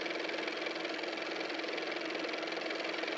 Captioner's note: car motor